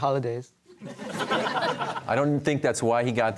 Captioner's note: audience laughter